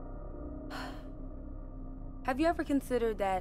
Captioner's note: sighs